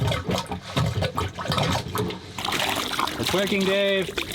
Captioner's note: water sloshing